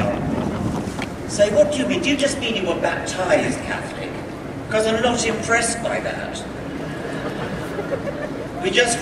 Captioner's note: crowd chuckles